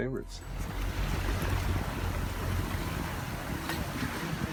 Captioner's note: waves rising